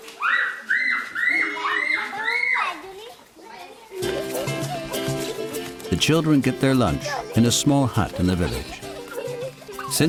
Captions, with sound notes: (children shrieking) The children get their lunch in a small hut in the village.